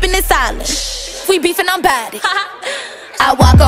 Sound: haha

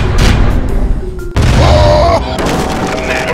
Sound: explosive appearance then evil laugh

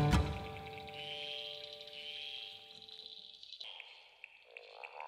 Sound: frogs croak

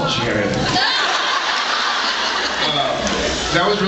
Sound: laughs

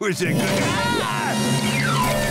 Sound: screaming

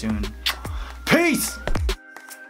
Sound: lips smacking

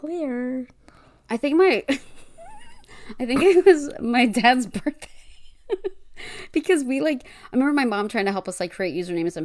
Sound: laughs

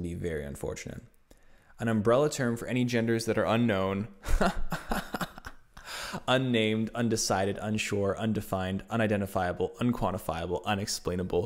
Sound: laughs

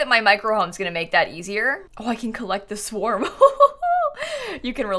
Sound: evil laugh

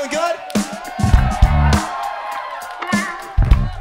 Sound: audience cheers

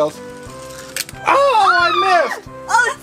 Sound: both call out in excitement

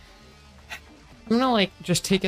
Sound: exhale

